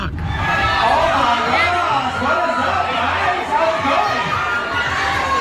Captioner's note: crowd cheers